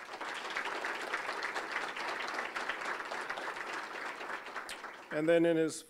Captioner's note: applause